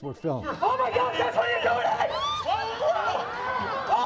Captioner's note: yelling